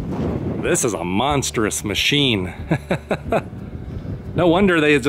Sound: laughter

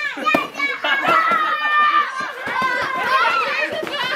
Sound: kids scream and attack

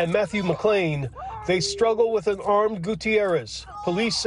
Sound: yelling

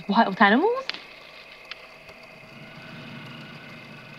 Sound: rustling sounds somewhere in the nearby bushes

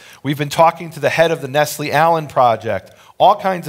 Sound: none

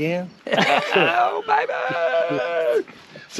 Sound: laughing

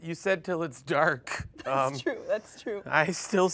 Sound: laughs

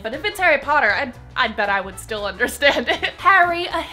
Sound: laughs

